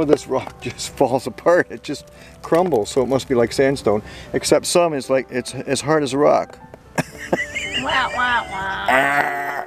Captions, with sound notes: this rock just falls apart. It just crumbles, so it must be like sandstone. Except some is as hard as a rock. [ chuckles ]